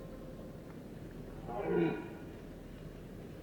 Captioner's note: stag roars